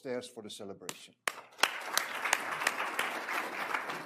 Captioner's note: applause